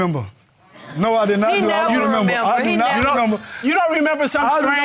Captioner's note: stammers